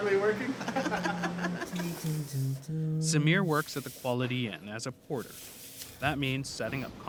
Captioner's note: laughter